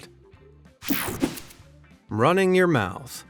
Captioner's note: whooshing sound